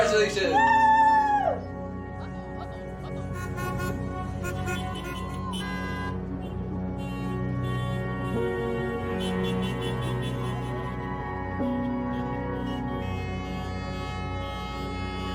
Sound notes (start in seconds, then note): 8.6 car horns honking